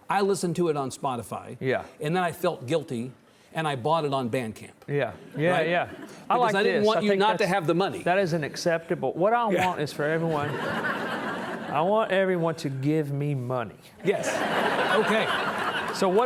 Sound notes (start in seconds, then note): 10.3 audience chuckling; 14.1 audience laughing